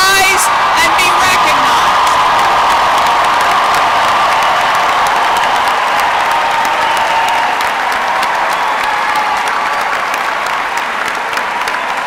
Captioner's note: applause